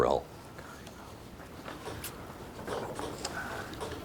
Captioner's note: team whispering